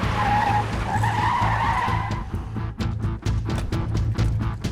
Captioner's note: none